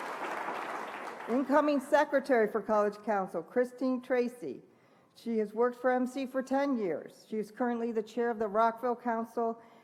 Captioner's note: applause